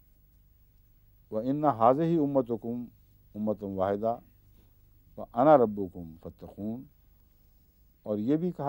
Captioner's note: Arabic